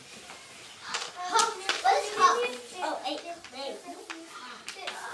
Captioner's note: children chatting